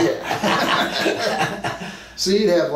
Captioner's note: both men laugh